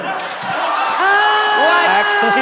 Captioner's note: all cheering